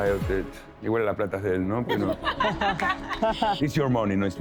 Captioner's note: laughter